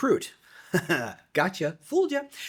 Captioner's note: laughs